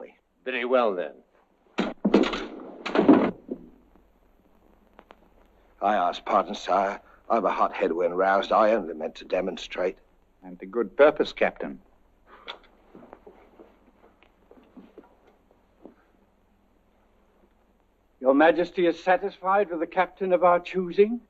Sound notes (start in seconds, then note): 1.5 swords clanking; 1.7 body thud